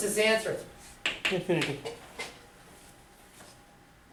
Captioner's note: voiceover